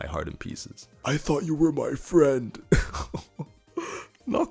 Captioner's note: in legitimate pain and tears